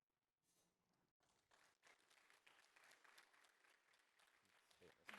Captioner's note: applause